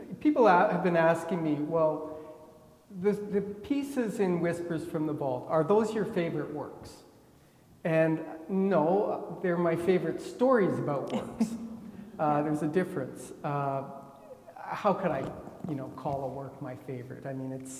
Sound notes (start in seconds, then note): 11.0 chuckles